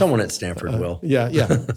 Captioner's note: laughs